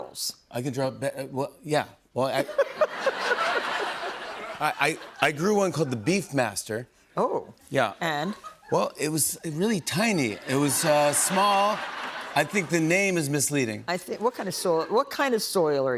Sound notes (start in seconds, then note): 2.4 laughter